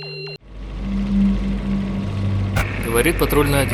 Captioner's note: helicopter blade noise